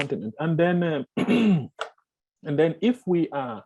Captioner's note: clears throat